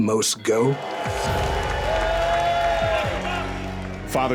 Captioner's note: cheering